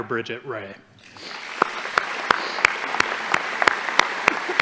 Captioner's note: audience applauding